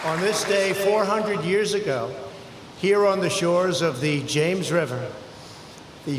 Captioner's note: applause